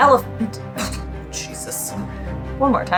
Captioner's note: coughs; background music